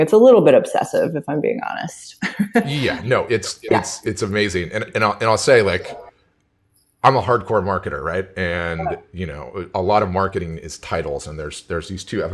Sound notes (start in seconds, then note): 2.2 laughs